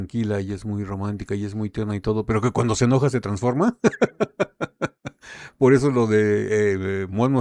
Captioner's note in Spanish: risas